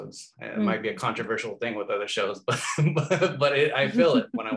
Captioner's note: laughs